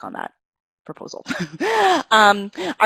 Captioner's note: laughs